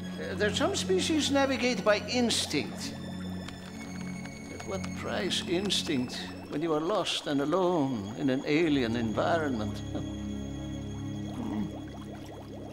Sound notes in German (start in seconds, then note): 3.5 Tastaturklick